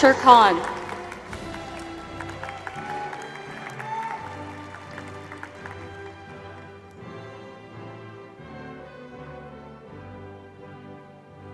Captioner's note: applause